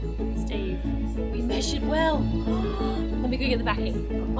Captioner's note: gasps